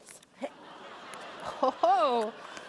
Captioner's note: audience laughing